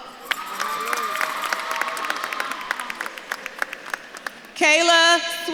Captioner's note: audience claps and cheers